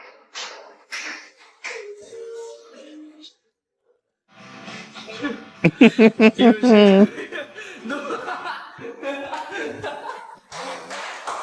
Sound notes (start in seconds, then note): 5.6 laughs